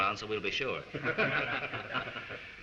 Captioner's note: all chuckle